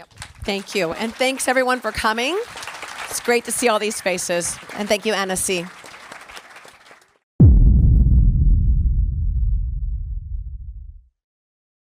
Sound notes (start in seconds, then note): 5.8 applause